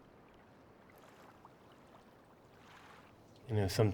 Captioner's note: waves gently rolling